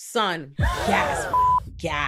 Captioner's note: beep